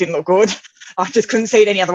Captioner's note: laughs